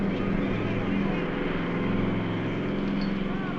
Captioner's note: airplane Circling; shouting Continues